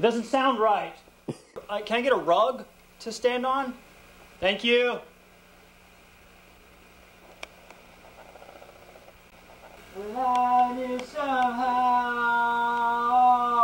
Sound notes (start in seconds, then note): 7.2 camera zoom sounds